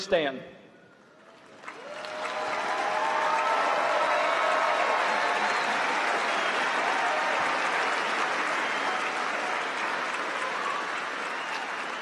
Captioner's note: applause